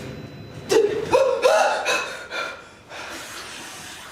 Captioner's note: terrified gasp